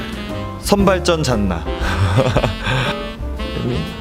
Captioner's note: laughs